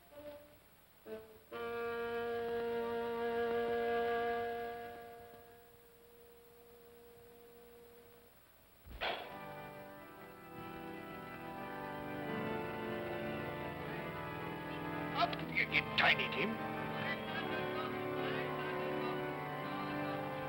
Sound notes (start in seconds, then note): 0.1 ominous music; 8.9 pop sound; 9.9 organ plays slowly; 17.5 organ plays slowly